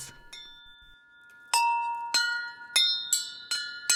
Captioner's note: clanging